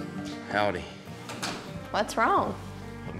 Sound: door closes

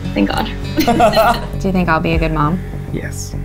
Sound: laughing

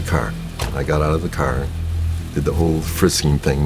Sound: car door slams

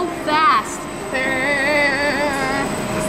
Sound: mimicking whirring

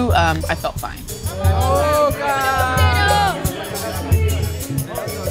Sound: fans cheering in Spanish

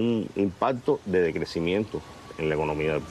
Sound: speaking in a global language

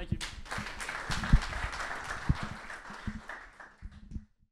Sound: audience applauding

